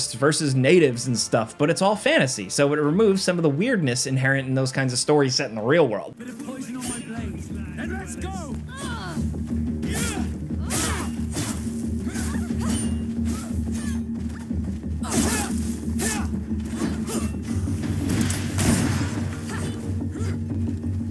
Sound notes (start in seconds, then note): 9.6 people grunting; 12.2 dramatic music; 17.7 gun firing